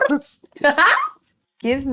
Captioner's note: laughs